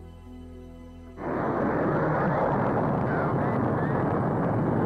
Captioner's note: rocket whooshing